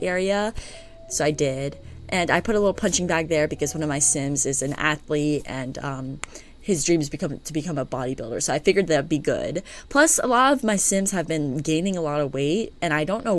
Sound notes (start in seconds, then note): 6.8 stutter